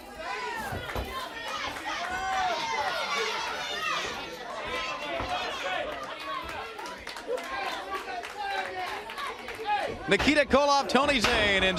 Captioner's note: crowd chatter